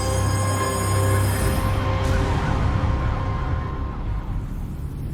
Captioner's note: sirens wail distantly